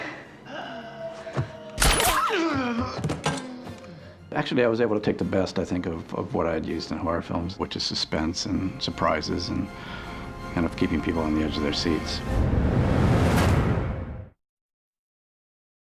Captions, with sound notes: [grunting] I was able to take the best of what I had used in horror films, which is suspense and surprises and keeping people on the edge of their seats.